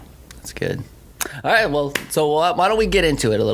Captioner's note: claps